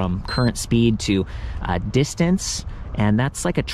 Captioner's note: bike beeps